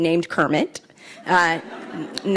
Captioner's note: laughs